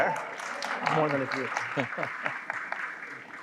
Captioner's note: applause